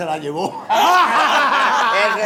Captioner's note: laughs